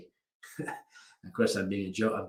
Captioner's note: laughing